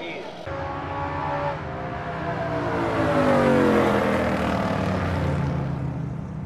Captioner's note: engine blaring